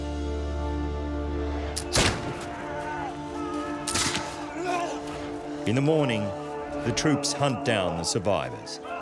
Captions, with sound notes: [rifle fires] [gunshots firing] In the morning, the troops hunt down the survivors.